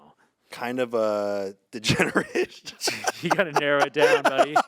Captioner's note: laughs